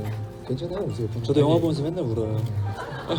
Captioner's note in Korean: 웃음